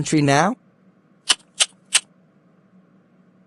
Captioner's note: smacks lips